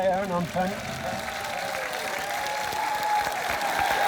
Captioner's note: applause